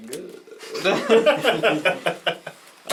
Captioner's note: all laugh